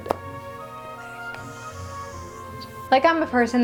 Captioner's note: squeeking